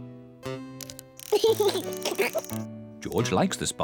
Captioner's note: laughs